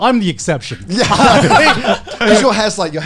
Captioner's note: laughing